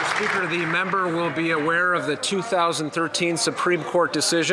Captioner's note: some Applause